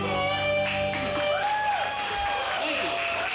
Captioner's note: audience applauds; audience cheers